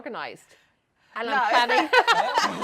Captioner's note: laughs